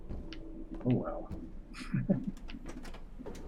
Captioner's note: chuckles